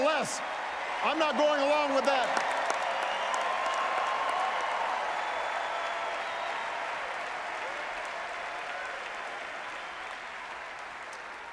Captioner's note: applause